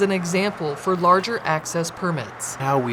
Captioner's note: sounds of cars driving